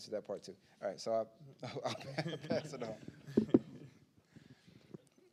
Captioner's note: chuckles